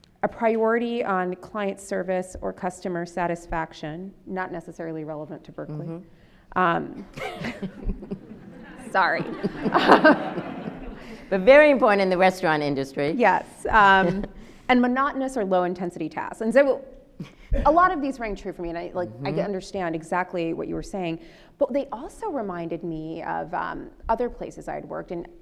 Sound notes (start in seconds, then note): 7.1 both laughing